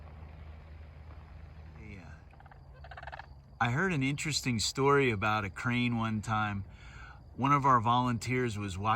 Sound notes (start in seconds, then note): 2.6 sandhill cranes calling